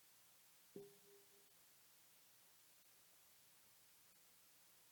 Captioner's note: bell dinging